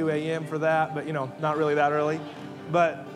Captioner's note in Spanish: congregación riendo